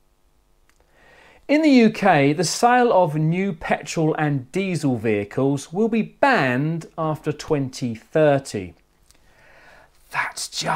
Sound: whisper

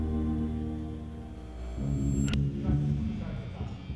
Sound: amplifier whirs

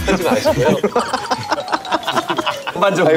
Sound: laughs

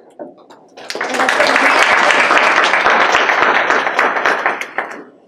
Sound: applause

